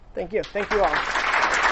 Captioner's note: applause